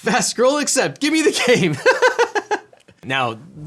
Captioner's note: laughs